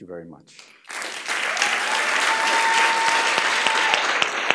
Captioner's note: applause